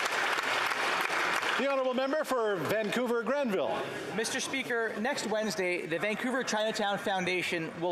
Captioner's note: applause